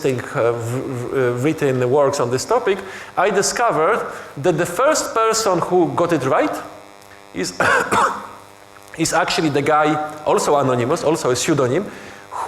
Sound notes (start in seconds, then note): 7.5 coughing